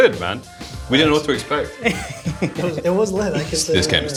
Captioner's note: chuckles